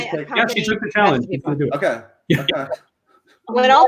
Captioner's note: laughs